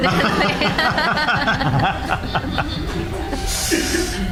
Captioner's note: laughing